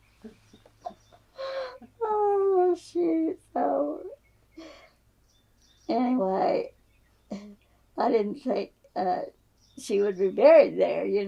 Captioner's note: laughs